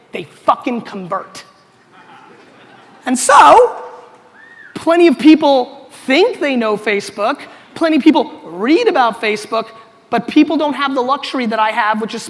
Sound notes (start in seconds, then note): 2.1 audience laughter